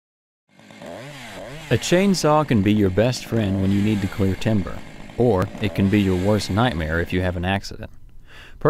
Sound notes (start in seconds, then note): 0.6 chainsaw buzzing